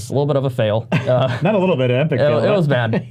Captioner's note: men laugh